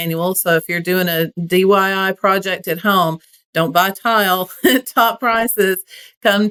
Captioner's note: laugh